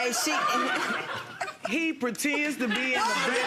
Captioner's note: audience laughing